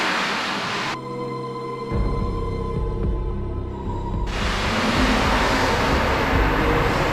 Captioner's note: the sound of water running through the tunnel; strange sounds and screams